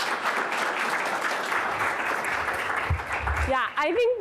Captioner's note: audience applauds